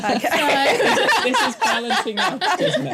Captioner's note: laughter